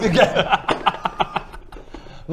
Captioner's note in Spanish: risas